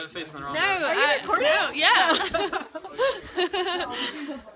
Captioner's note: laughs